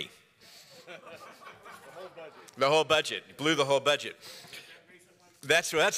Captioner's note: laughter